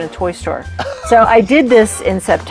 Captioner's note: laughing